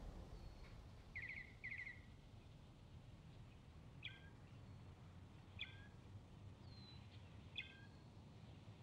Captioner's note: birds chirping